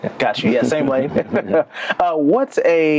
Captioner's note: laughter